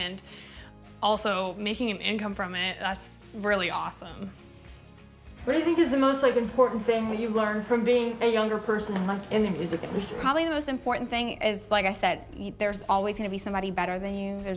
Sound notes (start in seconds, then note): none